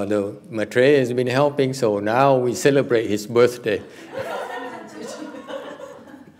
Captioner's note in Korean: 웃음